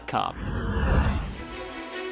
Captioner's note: ship engine